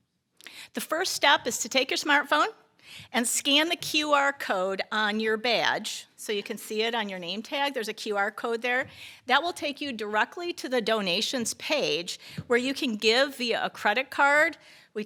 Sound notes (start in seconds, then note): none